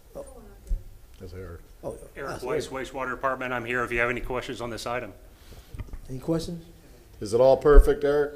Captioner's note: off microphone